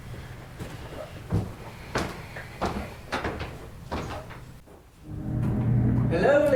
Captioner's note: walking